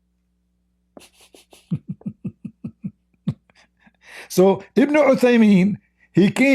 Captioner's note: Ketawa